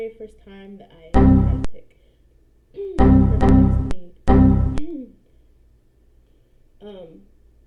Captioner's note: Windows error noises